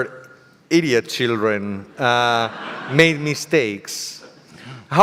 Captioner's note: audience laughter